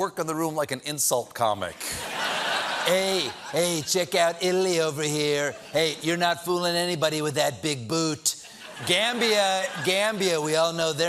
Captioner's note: laughter